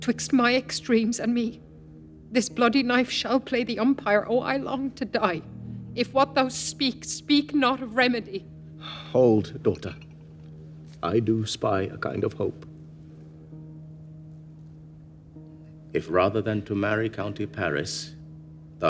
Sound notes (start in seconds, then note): none